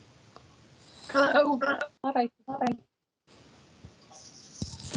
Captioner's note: audio distorts